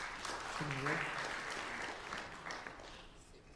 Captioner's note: applause